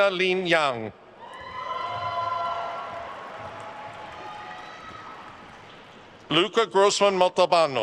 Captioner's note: attendees cheering and applauding